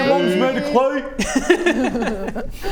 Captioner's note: taunting giggles